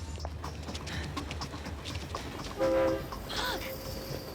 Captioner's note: train whistle blows